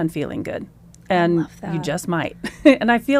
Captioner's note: laughs